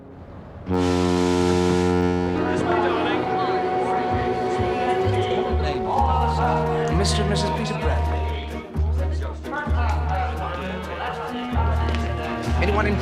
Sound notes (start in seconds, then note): 0.7 horn